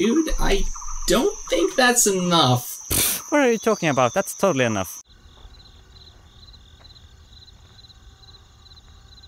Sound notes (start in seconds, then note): 5.9 crickets